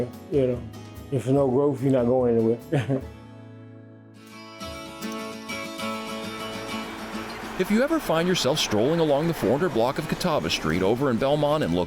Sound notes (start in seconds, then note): 2.7 chuckles; 4.0 bright music